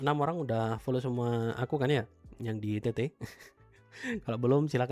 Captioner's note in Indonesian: tertawa